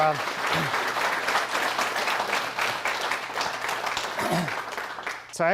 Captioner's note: applause